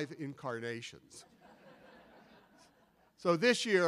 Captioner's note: audience laughing